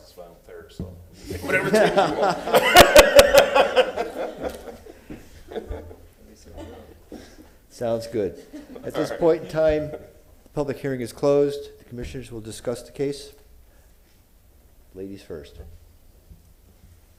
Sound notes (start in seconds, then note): 9.8 laughter